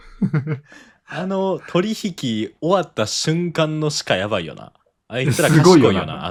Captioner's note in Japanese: 笑い